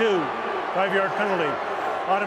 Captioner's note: booing